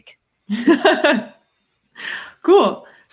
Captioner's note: laughs